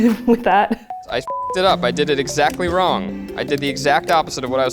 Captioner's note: beep